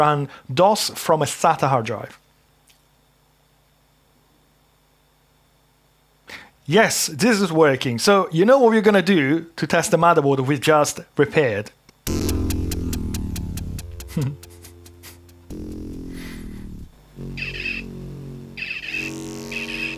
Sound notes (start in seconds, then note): 14.1 laughing; 15.5 upbeat music